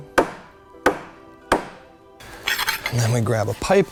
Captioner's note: hammering